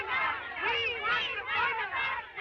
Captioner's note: chanting